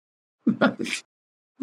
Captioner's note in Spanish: reír